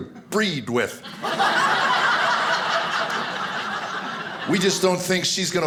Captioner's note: audience laughing